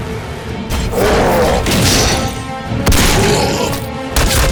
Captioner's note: demons grunting; gunshots booming